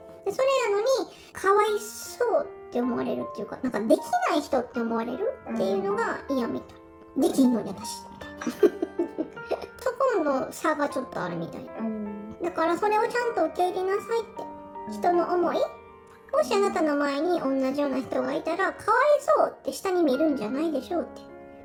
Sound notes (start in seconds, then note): 8.2 laughs